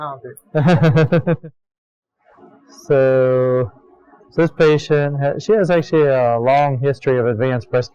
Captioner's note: laughter